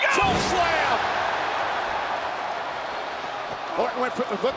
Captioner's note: audience cheers